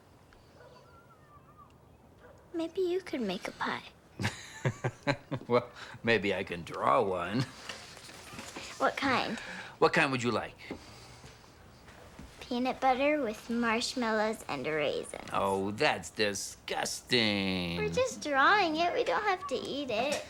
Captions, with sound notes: - Maybe you could make a pie. (Mark laughs) - Well, maybe I can draw one. - What kind? - What kind would you like? - Peanut butter with marshmallows and raisins. - Oh, that's disgusting! - We're just drawing it, we don't have to eat it.